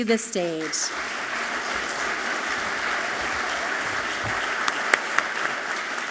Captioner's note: audience clapping loudly